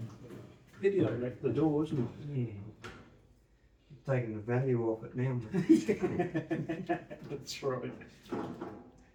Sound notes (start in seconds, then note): 5.6 laughing